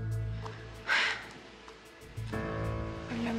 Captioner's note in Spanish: exhala